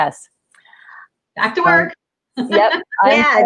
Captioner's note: laughs